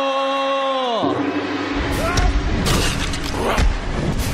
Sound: gong sounds

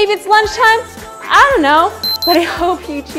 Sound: timer beeps

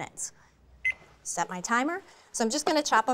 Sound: beeps

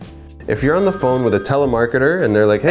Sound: phone rings

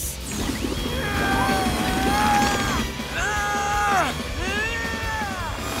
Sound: grunting

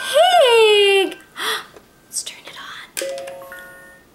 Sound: gasps

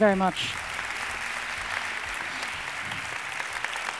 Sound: audience applauds

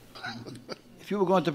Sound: laughing

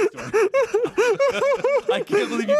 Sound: laughs

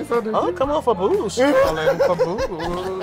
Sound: J. Harrison laughing

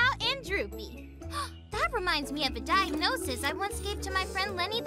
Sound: gasps

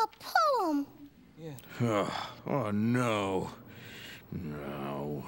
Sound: sighs

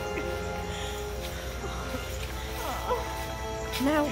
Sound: groaning

